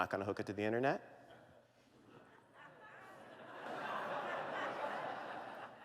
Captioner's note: laughter